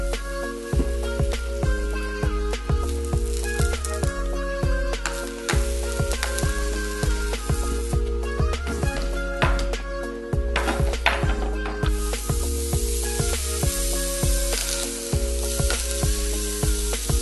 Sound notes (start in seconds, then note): 2.2 SIZZLE and POPPING